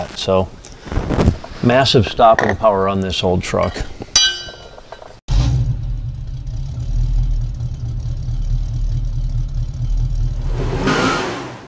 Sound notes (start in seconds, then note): 5.3 engine Revving; 10.3 tires Squealing